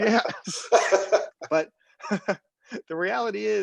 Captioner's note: laugh